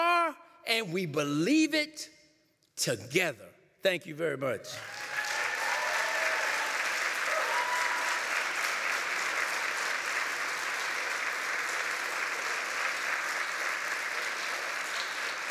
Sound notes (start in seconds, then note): 4.7 applause